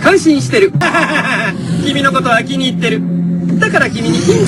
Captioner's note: laughing